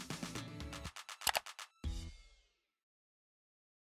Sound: mouse clicking

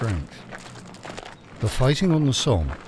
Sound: boots stomping

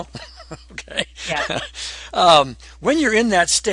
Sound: laughs

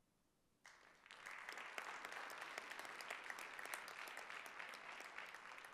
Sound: audience applauding

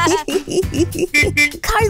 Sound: car beeping

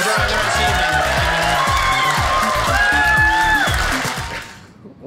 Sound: audience cheers

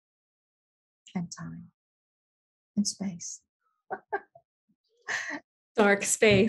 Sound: laughing

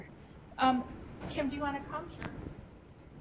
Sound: voiceover

